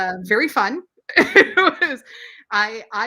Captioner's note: laughs